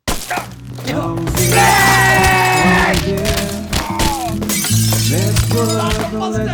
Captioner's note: glass shatters